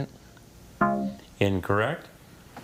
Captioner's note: tone clunks